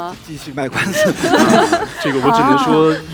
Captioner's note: laughs